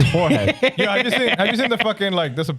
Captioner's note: laughing